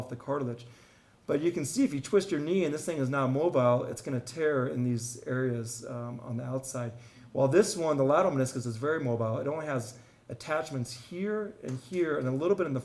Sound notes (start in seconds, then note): none